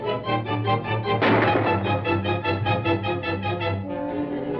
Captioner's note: gunshots